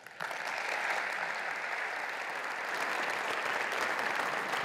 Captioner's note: applause